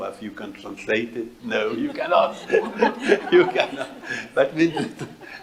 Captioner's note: laughs